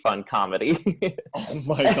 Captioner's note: laughs